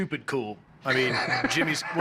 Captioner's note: laughs